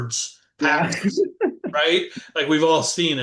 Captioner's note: laughter